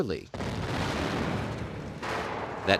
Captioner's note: explosion